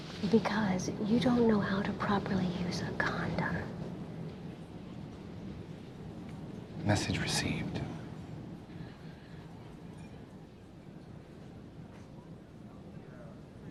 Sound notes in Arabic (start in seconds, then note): none